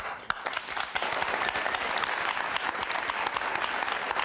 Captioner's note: crowd applause